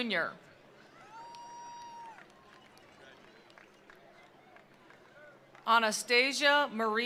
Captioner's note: attendees cheering; attendees applauding